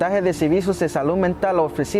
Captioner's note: speaking Spanish